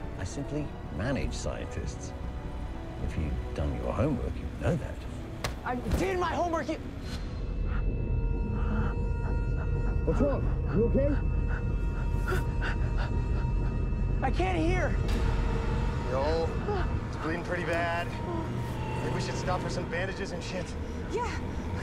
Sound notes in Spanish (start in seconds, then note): 8.4 gruñidos; 10.3 Respirando pesadamente